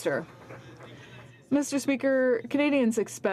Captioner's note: some Applause